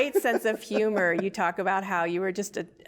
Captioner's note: laughs